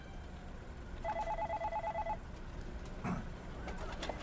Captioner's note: phone ringing